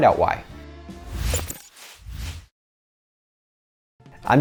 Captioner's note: whoosh